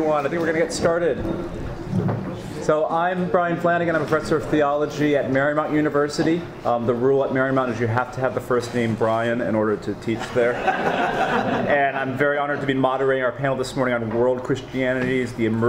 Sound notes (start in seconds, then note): 10.2 audience laughing